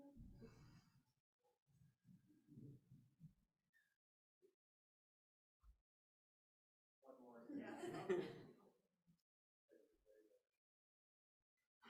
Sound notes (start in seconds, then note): 7.5 group laughs